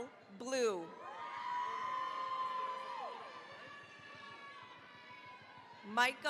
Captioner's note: cheering, applause